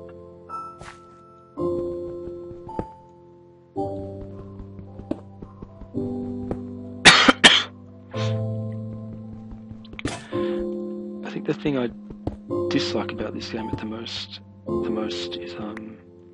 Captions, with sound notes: [coughing] I think the thing I dislike about this game the most is, um